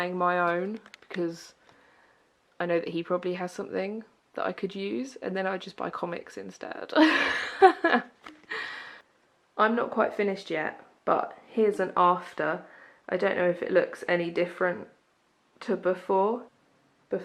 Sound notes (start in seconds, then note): 7.4 laughs